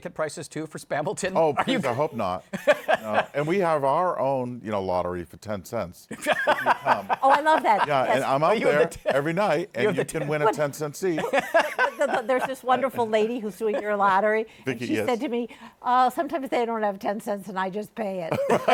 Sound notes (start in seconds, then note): 11.1 laughs